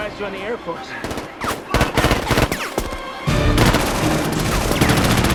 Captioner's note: shouting In Spanish